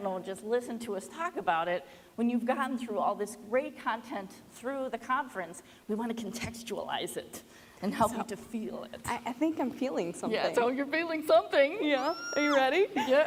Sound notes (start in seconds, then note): 11.9 squeals